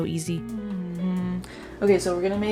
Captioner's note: humming